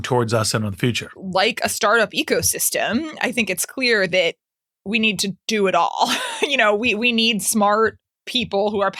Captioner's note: laugh